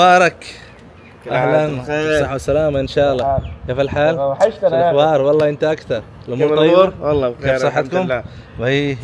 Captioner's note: Arabic